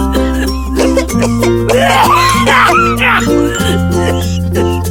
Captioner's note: people coughing